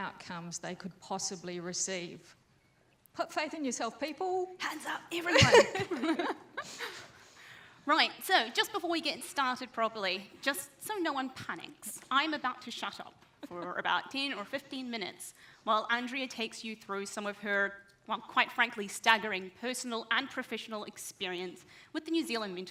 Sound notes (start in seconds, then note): 5.3 both laugh